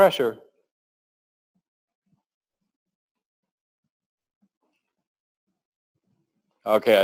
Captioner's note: pause